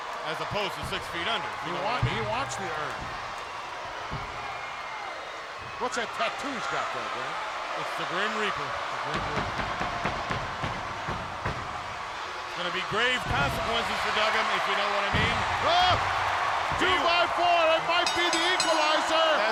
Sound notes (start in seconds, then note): 3.3 crowd yelling; 9.7 Paul pounding; 18.0 bell dinging